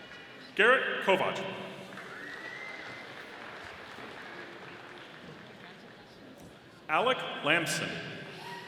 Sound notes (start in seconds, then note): 1.9 audience applauding